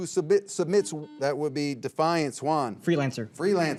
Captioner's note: signal beeps